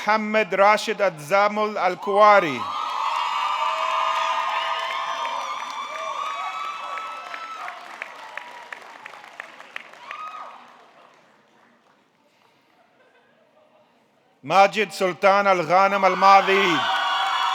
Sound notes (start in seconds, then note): 1.9 audience cheering; 2.7 audience clapping; 15.4 audience cheering; 16.0 audience clapping